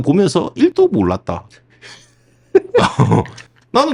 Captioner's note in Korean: 웃음